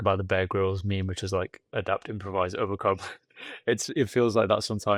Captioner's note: laughs